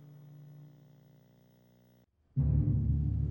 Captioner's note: camera buzzing; suspenseful music